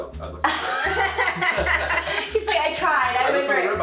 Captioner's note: group laughs